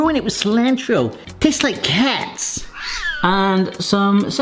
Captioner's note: cat meows